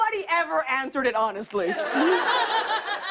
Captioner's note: laughter